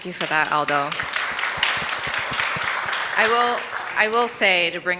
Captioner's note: audience applauds